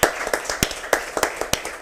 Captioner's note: applause